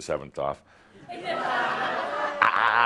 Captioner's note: lots of laughter